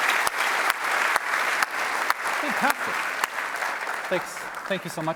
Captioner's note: applause